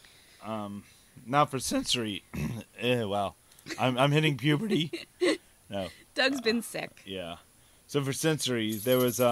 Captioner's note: laughing